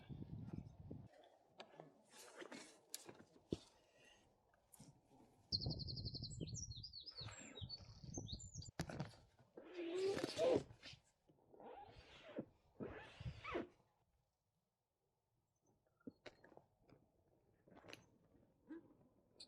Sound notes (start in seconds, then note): 5.5 birds chirping